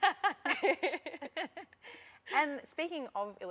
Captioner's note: laughter